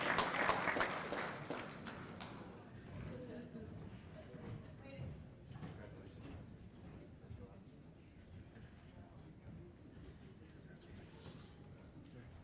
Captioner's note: cheers and applause